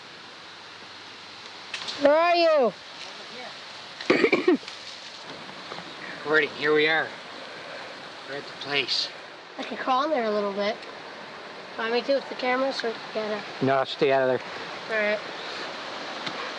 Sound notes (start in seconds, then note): 4.0 coughing